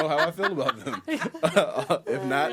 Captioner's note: he laughs